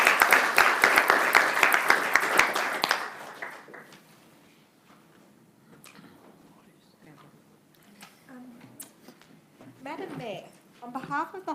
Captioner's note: applause